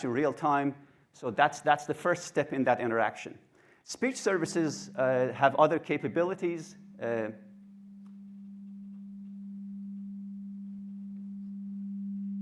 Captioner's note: mic hum